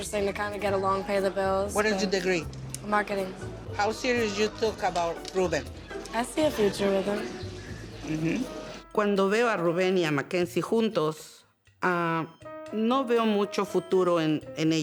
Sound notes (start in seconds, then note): 9.0 speaking Spanish